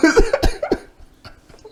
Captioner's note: both laughing